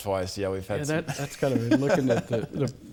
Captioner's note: laughs